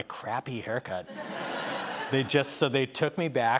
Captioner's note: laughter